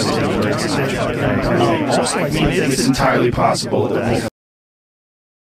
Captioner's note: voices in unison